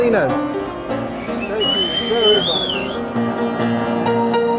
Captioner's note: whistling